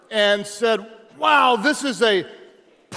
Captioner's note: none